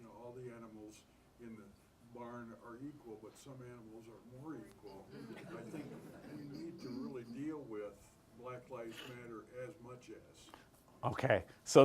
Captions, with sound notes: all the animals in the barn are equal, but some animals are more equal. (group members chuckle) I think we really need to deal with Black Lives Matter as much as. - Okay.